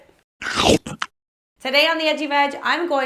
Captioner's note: bites